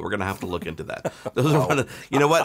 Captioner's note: laughing